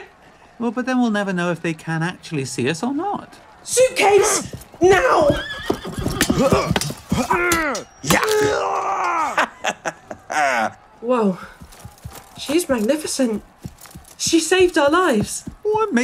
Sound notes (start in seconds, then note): 5.6 horse whinnies, swords clash and a warrior is fatally wounded; 9.2 laughs menacingly